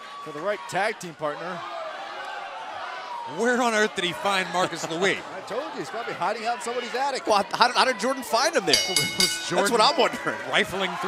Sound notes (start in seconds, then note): 8.7 bell ringing